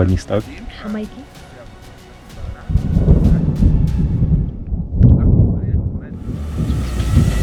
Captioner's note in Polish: Słychać grzmot w niedalekiej odległości